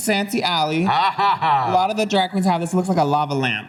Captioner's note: laughs